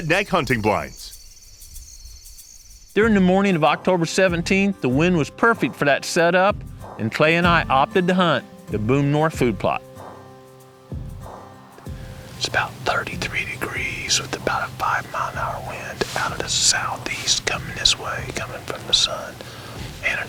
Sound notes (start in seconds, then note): 10.7 whispering